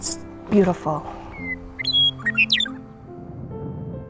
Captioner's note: meadowlark sings